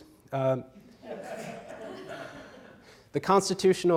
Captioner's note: audience laughs